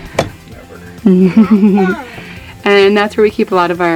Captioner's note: laughing